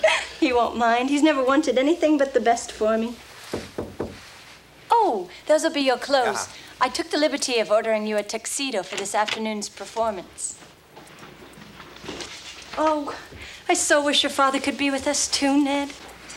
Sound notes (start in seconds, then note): 3.5 knocks on door